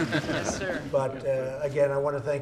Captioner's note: laughter